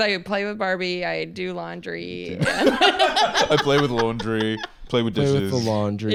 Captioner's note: laughs